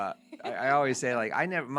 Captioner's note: laughing